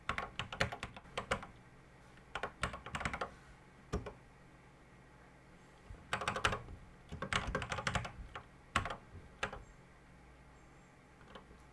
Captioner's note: typing on a C64 keyboard